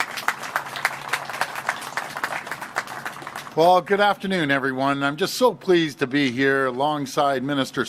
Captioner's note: applause